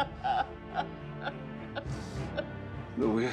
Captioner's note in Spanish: sollozos